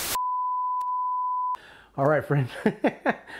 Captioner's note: interference hissing; beep; laughs